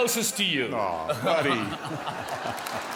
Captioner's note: applause